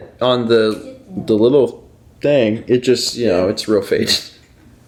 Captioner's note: chuckles